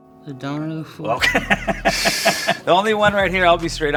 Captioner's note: laughs